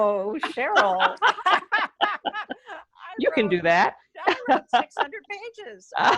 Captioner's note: laughter